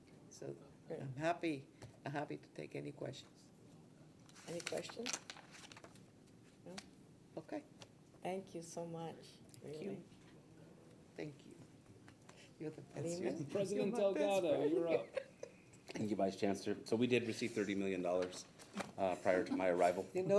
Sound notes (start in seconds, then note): 14.8 laughing